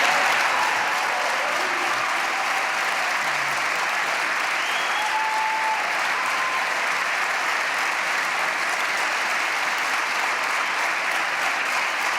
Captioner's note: applause